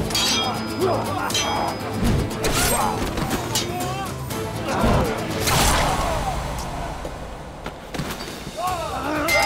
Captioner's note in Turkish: Dövüş sesleri